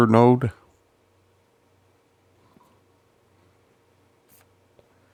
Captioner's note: silence